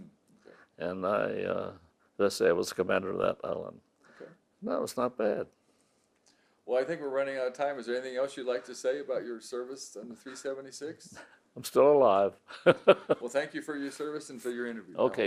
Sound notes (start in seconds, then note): 12.4 laughs